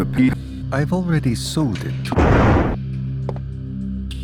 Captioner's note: convenient thunder